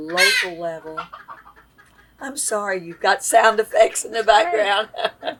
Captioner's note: laughs – guinea hens are clucking